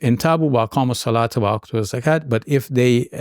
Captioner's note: speaking in Arabic